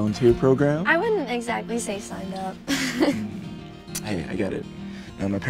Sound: chuckles

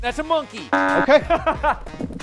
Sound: buzzer

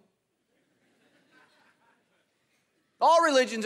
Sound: congregation laughing

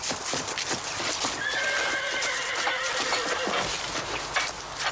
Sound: Sally whinnying

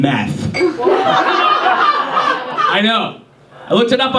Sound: audience laughs

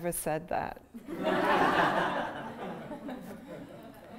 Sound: laughter

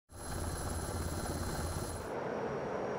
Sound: helicopter

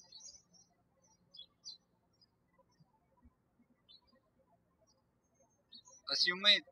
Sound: birds chirping

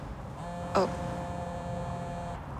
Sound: cellphone vibrating

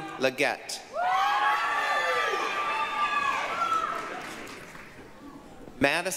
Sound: applause, cheering

